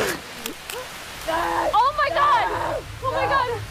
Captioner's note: screaming